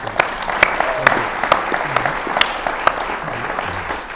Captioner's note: audience claps